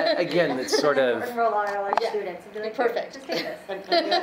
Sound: speaking faintly

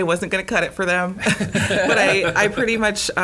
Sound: laughing

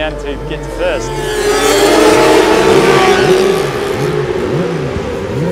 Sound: motorcycles revving

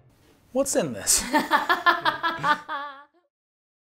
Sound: laughing

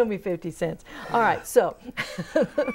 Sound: laughing

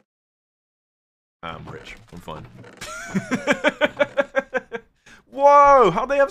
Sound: laughs

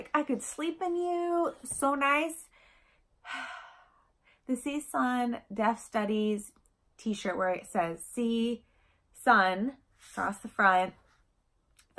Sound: sigh

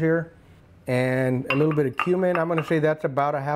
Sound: glass clanks

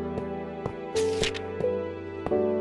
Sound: page flipping sound

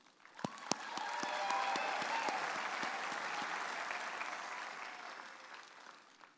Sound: audience applauding and cheering

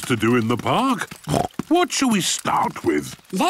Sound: snorts

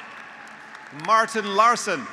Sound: graduates applauding; graduates cheering

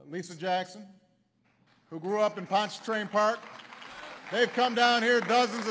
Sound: applause

